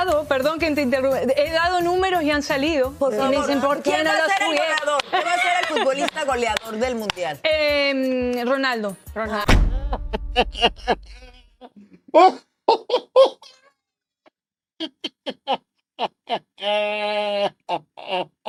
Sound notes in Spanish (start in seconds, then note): 15.3 risas; 18.2 risas